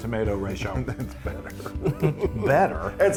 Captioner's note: laugh